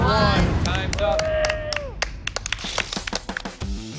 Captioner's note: applause; blows raspberry